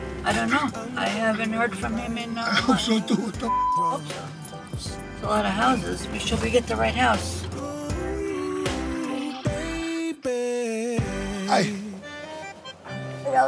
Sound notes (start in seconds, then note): 3.4 beep; 7.7 relaxing upbeat music continues; 11.0 classic Italian music